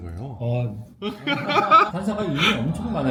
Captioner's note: in disbelief